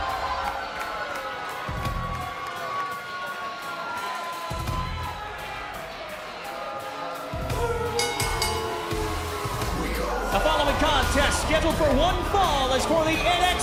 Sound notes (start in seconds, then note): 0.0 cheers & applause; 7.9 bell